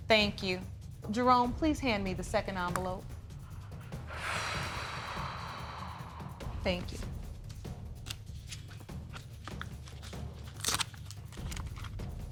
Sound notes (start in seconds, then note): 3.9 sighs; 8.0 opening envelope